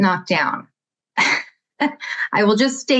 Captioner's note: chuckling